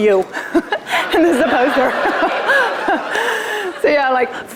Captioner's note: laughter